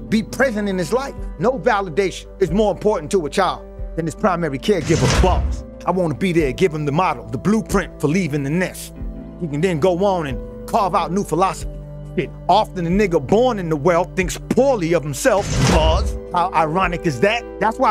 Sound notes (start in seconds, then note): 4.9 bars slamming; 16.0 bars slamming